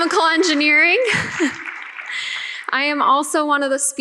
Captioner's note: audience clapping